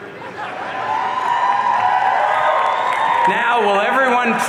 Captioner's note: audience cheering